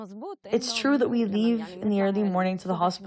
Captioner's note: through translator